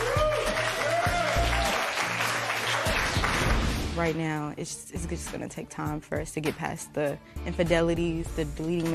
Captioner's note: cheers and applause